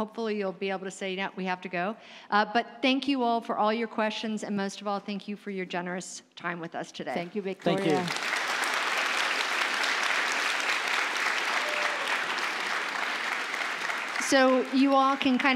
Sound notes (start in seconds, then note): 7.6 applause